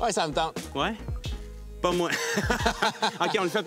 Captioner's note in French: rires